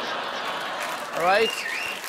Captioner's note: laughter; applause